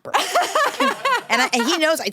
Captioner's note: laughs